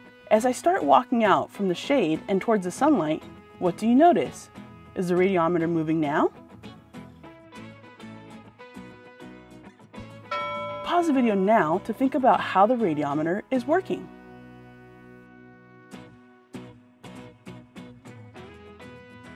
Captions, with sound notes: As I start walking out from the shade and towards the sunlight, what do you notice? Is the radiometer moving now? [Ding] Pause the video now to think about how the radiometer is working.